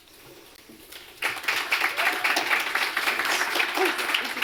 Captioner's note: applause